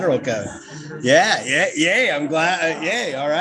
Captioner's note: all giggling